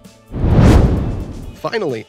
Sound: fireball roars past

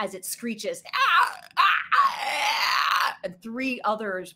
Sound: Deborah screeches

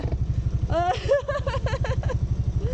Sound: laughing

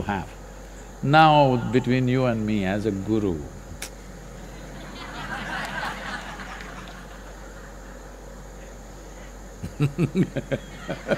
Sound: laughter

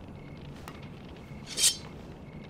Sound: sword unsheathed

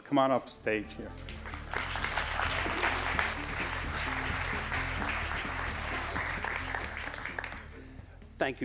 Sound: applause

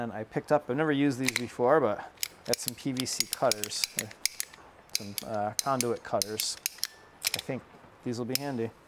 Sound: tool clicking

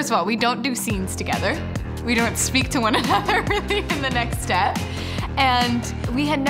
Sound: laughing

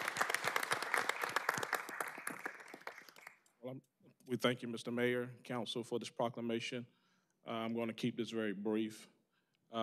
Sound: applause

